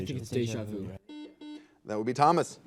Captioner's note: buzzer